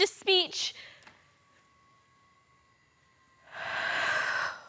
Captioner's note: holding breath; deep sigh